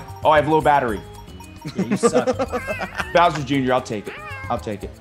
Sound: laugh

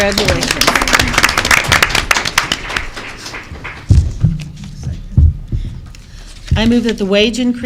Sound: applause

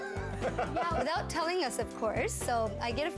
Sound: laughing

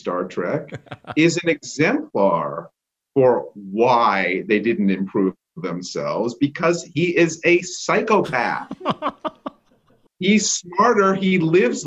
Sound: laughter

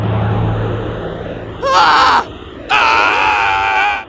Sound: then screams

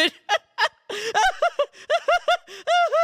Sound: laughing; still laughing

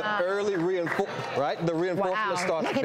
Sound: audience clapping

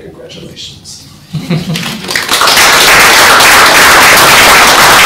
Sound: applause

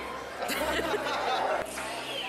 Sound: laughter

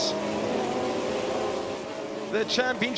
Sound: engines whirring

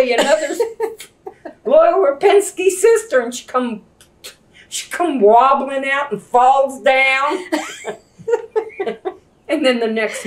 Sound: laughter; laughter

